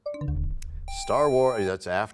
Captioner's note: buzzer sound; bell chimes, time expires